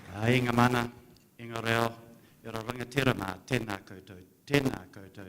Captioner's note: speaks foreign language